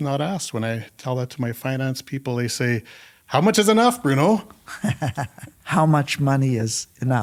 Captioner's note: laughter